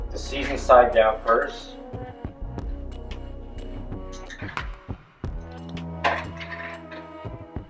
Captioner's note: tongs click